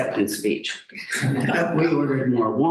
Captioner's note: laughter